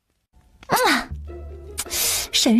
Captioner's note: kiss